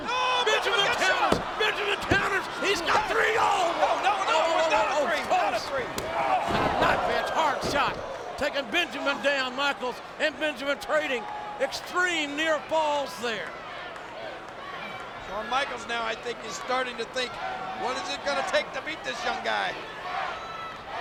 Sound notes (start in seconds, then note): 3.9 audience cheering; 6.4 hand slaps